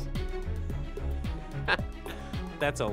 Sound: chuckle

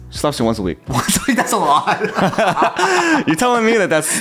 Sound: laughs

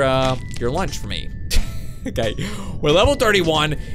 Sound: laughs

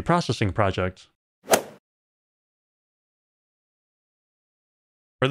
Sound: golf ball hit sound

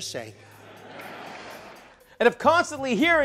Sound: audience laughs

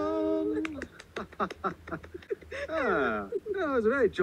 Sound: laughing

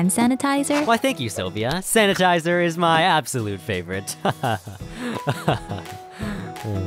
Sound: laughs

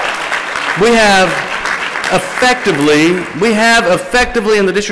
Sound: applause

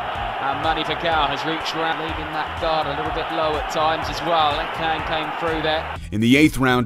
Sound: crowd noise

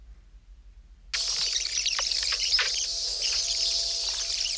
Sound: VHS tape noises

